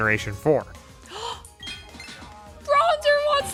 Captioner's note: gasp